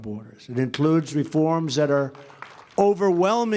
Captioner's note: applause